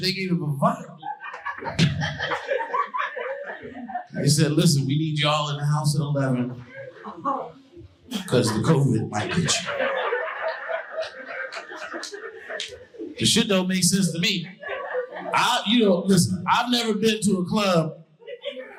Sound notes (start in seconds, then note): 2.4 audience laughing